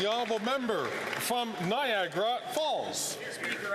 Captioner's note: some Applause